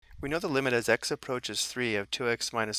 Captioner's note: voiceover